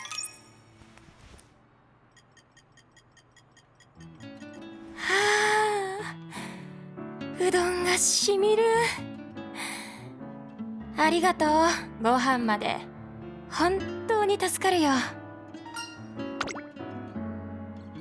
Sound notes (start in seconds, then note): 5.0 sigh